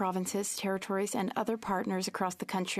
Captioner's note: speaking French